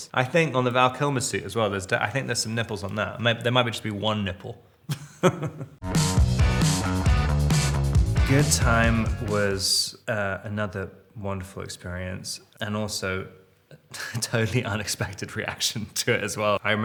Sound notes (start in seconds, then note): 5.1 Robert laughs; 5.8 upbeat rock music